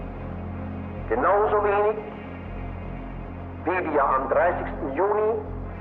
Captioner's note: Himmler continues speaking German